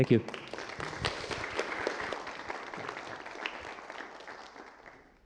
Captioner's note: applause